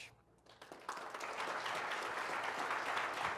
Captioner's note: applause